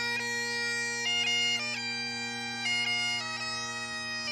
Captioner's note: none